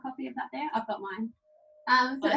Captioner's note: laughs